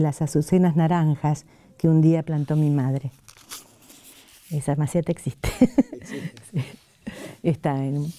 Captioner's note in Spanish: risas